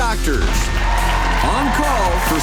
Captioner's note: cheers, applause